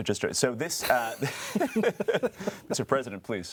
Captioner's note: laughing